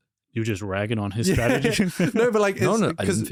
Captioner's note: laughs